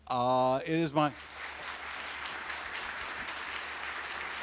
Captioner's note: audience clapping